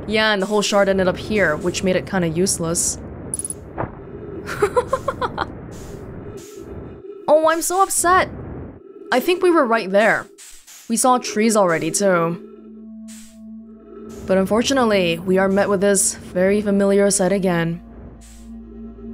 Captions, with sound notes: Yeah, and the whole shard ended up here which made it kind of useless. *laughs* Oh, I'm so upset! I think we were right there. We saw trees already, too. But unfortunately, we are met with this very familiar sight again.